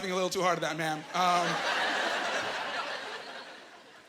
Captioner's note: laughing